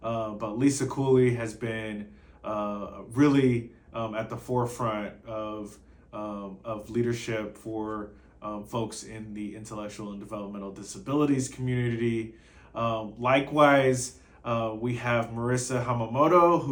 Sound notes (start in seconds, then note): none